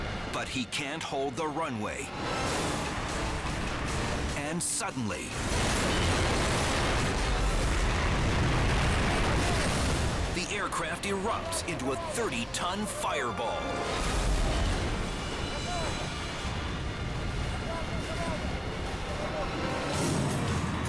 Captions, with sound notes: but he can't hold the runway. And suddenly, (jet explodes) the aircraft erupts into a 30-ton fireball. (fire roars) (thrilling music)